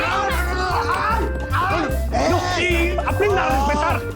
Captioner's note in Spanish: gritos